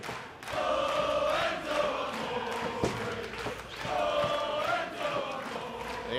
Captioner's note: fans chanting